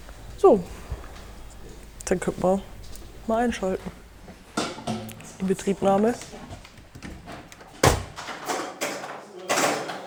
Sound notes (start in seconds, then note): 8.5 bubble of voices